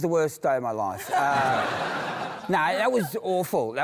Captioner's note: laughter